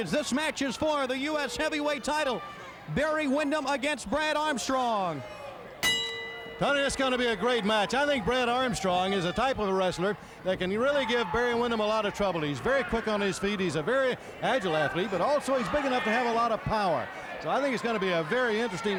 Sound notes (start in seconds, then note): 5.8 bell dinging